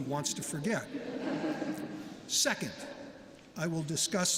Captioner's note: laughter